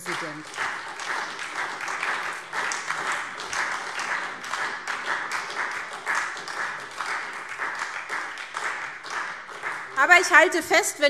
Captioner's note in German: Beifall SPD